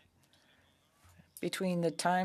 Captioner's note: speaking French